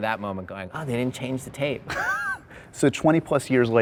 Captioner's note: laughs